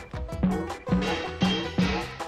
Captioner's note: pipe clanging